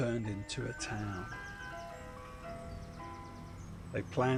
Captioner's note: chimes of an ice-cream van